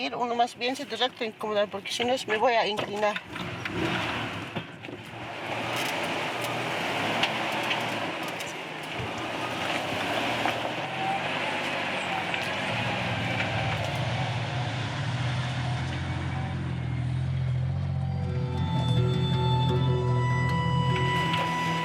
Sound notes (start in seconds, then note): 0.2 speaking in foreign language; 6.3 engine rumbling; 17.4 dramatic music